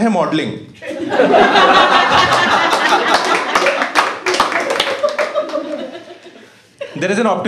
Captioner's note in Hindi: हँसना